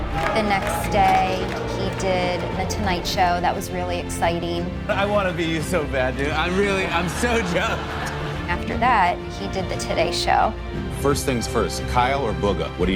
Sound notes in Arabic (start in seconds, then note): 6.4 ضحك